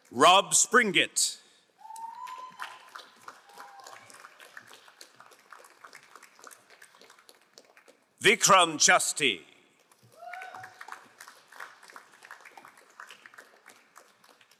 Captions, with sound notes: Rob Springgit. (crowd applauding) Vitram Chasti. (crowd applauding)